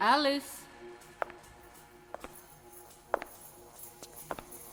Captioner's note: footsteps tapping